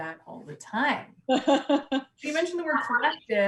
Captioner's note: loud laughs